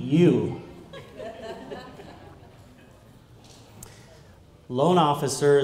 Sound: laughter

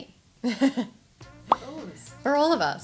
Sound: giggles

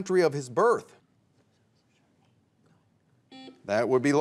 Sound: teammates whisper; buzzer beeps

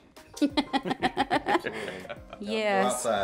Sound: laughter

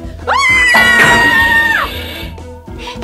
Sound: screams

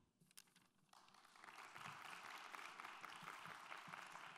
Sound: applause

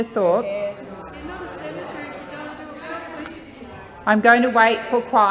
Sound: interjections from senators

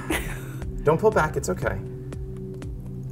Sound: uncomfortable laughter

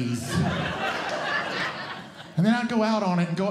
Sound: audience Laughing

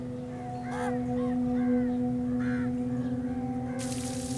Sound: birds squawking

